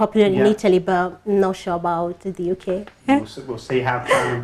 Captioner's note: laughs